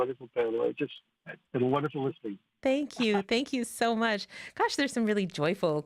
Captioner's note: speaking French